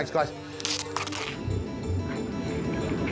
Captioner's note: tape tearing; upbeat music